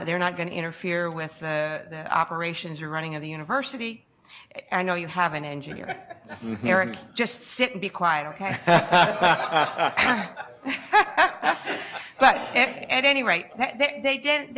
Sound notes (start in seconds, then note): 8.5 board laughs